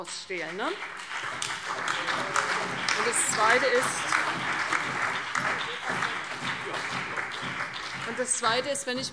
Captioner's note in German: Beifall CDU, BÜNDNIS 90/DIE GRÜNEN, vereinzelt SPD und DIE LINKE